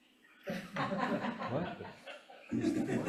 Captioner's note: members laughing